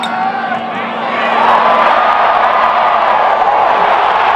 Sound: cheering

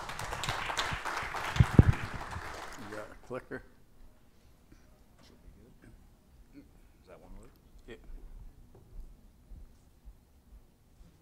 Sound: audience claps

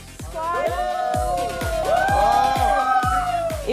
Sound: cheering

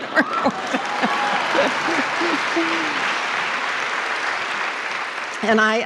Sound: applause

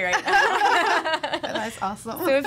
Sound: laughing

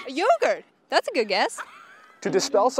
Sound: interviewees laughing

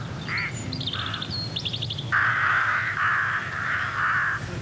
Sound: birds singing

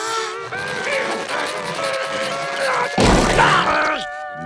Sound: grunting

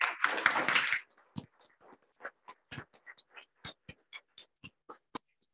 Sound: audience clapping

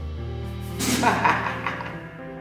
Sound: chuckles reminiscently

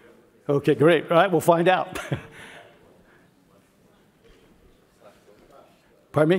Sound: laugh

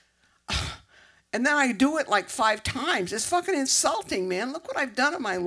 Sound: exhale

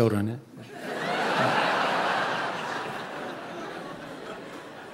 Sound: audience laughing

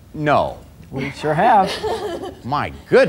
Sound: laughs

